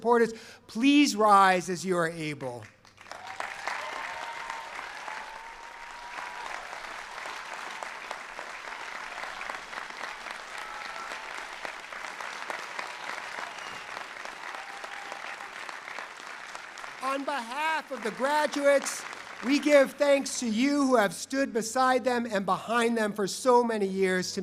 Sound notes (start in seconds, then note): 5.2 cheering and applause